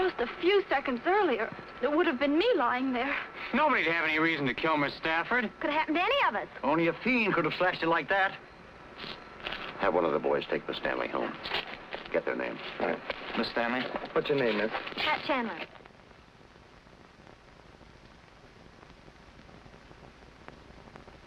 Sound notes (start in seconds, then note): 12.6 pat